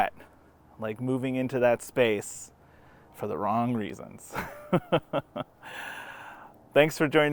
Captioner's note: laughs knowingly